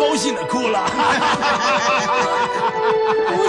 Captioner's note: laughs